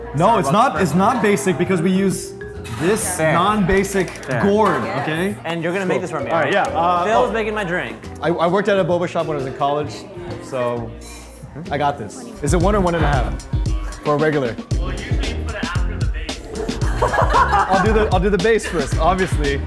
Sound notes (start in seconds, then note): 16.8 laughter